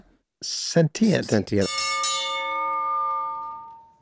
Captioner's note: bell rings